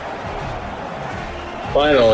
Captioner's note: crowd Noises